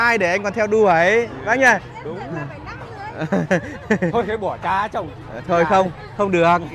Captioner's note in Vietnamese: Tiếng cười